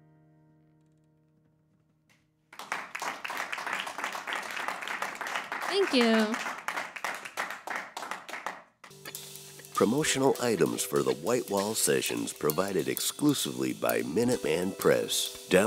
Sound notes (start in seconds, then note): 2.5 applause